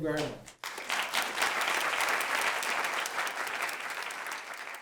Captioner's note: applause